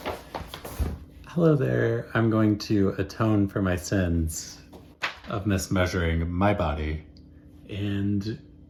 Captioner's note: paper rustling